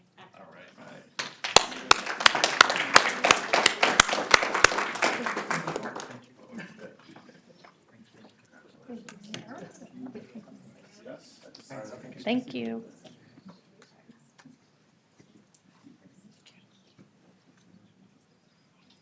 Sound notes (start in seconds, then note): 4.4 applause